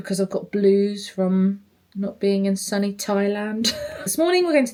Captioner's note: chuckles